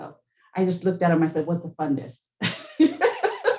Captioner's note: laughing